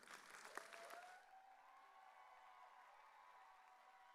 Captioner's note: audience cheering